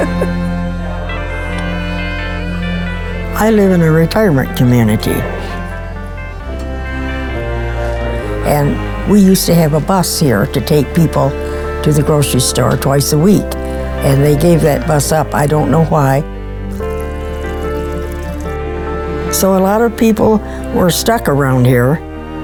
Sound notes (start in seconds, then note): 0.0 laughs; 0.3 instrumental music; 6.0 instrumental music; 16.6 liquid pouring; 17.3 instrumental music